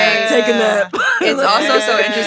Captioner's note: laughs